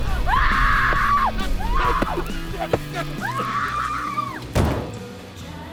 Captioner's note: screams; bumping sound